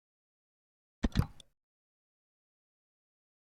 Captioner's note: click